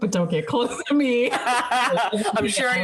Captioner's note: laughing